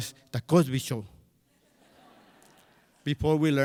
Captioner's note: crowd laughs